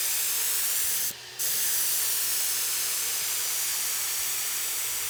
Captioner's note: nozzle hissing